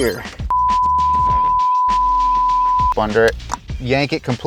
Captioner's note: long beep